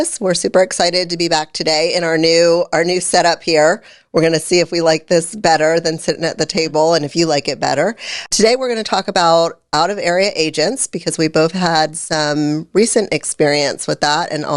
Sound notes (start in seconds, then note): none